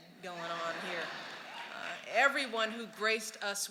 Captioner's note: laughter and applause